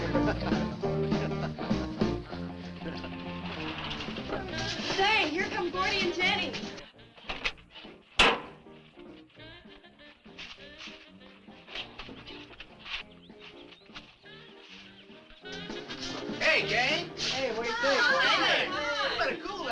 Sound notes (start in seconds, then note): 1.2 man chuckling; 3.7 engine rumbles